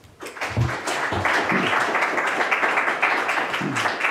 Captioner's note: audience applauds